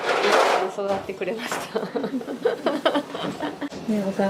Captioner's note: laughs